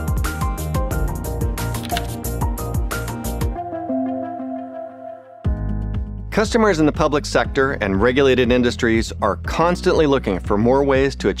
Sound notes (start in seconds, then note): 1.7 lock clicking